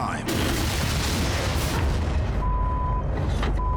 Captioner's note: truck crashing